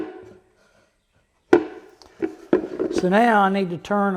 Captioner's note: wood knocks